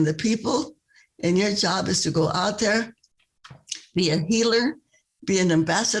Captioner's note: speaking spanish